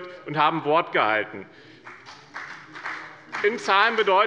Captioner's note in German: Beifall bei dem BÜNDNIS 90/DIE GRÜNEN und der CDU